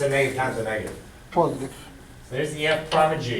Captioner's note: voiceover